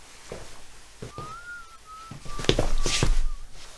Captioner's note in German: jemand pfeift auf dem Flur leise vor sich